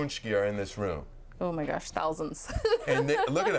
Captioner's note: laughing